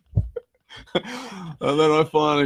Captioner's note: laughing